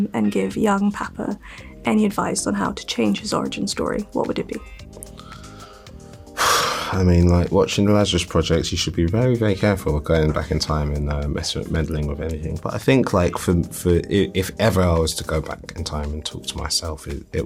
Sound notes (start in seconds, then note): 6.2 sighs